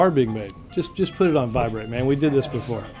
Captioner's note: cell phone rings